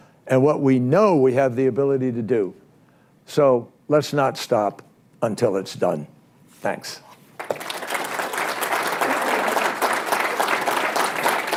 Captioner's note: applause